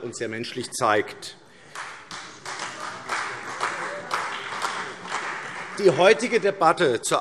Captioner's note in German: Beifall